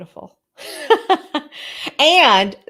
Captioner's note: laughs